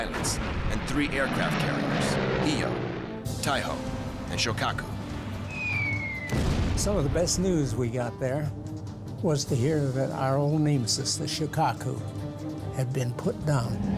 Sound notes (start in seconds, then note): 5.4 bomb whistling; 6.2 explosion